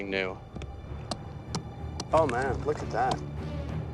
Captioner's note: chiseling